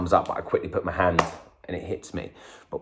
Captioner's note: clap